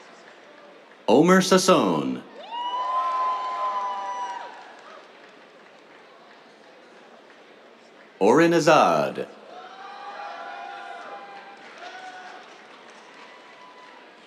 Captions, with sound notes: Omer Sasson. [CHEERS] Oren Azad. [CHEERS, APPLAUSE]